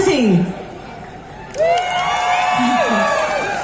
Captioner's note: crowd cheers and encourages